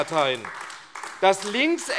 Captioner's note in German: Beifall AfD